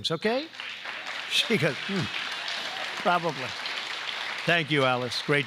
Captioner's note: applause